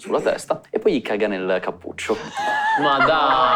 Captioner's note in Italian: Risate